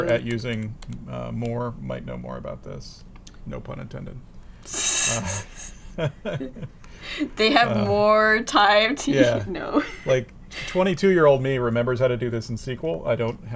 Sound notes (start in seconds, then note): 5.2 laughter